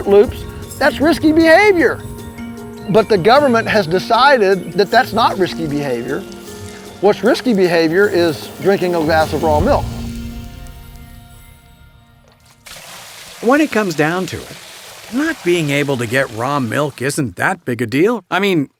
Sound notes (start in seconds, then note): 14.0 voiceover